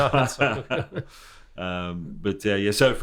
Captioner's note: people laughing